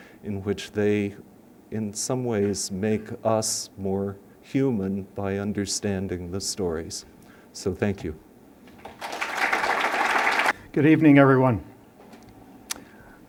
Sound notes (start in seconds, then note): 8.8 applause